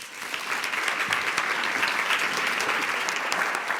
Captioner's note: applause